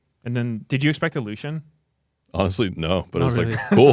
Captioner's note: laughs